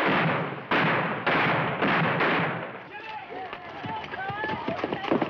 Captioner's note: gunshots banging